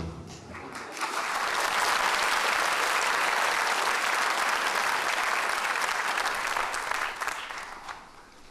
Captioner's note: applause